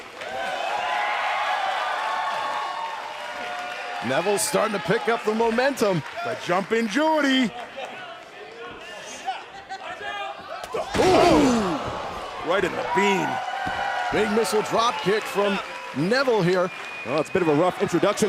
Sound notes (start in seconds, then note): 4.5 crowd cheering